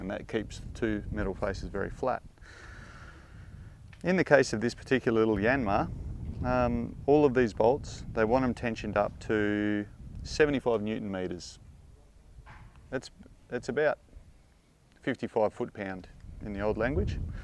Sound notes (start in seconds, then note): none